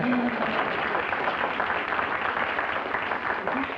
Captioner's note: applause